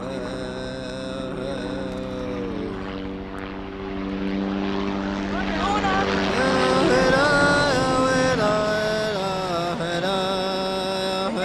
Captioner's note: helicopter